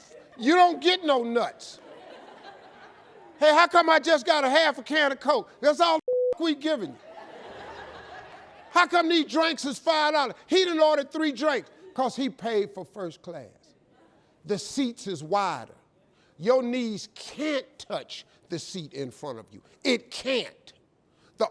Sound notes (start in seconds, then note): 6.0 beep